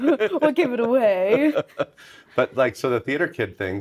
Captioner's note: chuckling